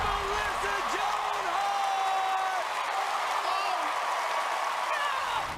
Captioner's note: applause